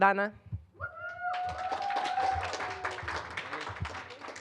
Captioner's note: applause